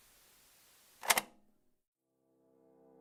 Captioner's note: click